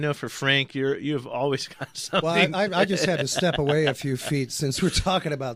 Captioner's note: laughs